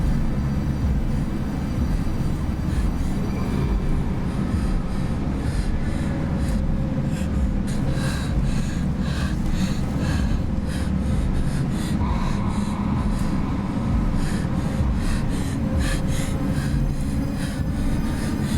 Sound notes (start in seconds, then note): 4.2 breathes heavily; 4.2 ominous music